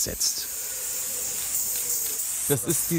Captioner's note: spraying noises